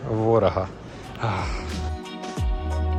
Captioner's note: sigh of relief